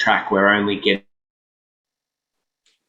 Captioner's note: audio dropped out